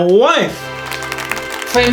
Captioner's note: applause